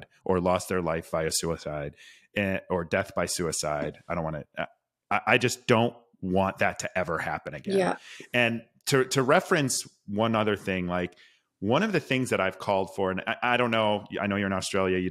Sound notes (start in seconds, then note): none